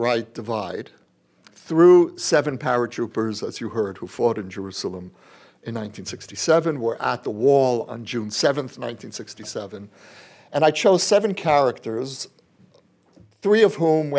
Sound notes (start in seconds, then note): none